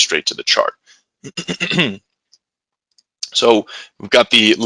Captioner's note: clears throat